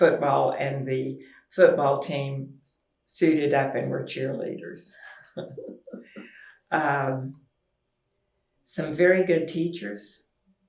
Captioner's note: laughter